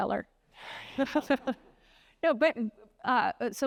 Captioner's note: laughs